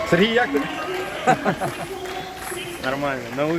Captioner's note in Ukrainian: Сміється